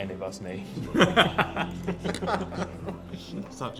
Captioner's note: laughing